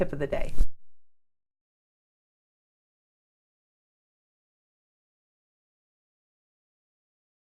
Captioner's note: silence